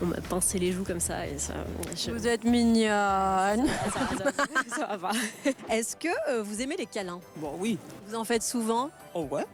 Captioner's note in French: rires